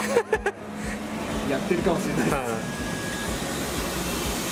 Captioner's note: laughs